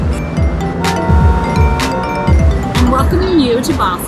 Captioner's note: car horn blaring